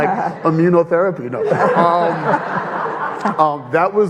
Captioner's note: audience laughing